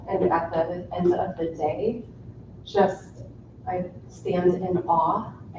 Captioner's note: none